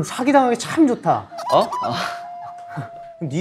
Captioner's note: laughing